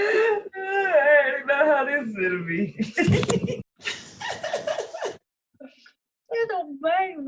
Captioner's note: laughing